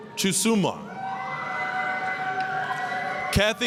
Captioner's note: applause, cheering